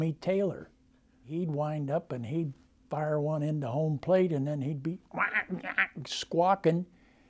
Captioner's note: squawking noises